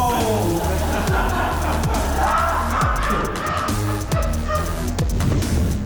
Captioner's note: laughter